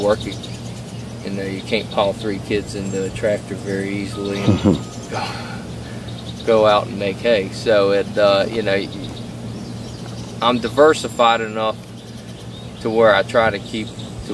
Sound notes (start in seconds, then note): 4.3 laughter